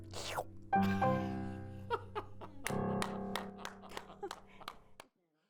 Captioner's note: laughing and clapping